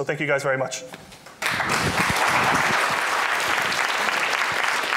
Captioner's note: applause